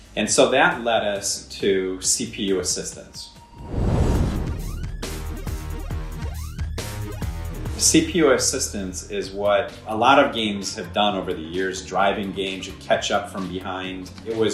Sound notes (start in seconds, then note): 3.4 intense electronic music; 3.6 fire roaring